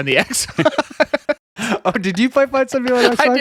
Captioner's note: laughing